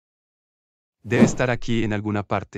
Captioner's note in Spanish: FX - Whoosh - 03